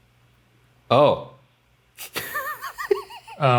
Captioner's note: laughs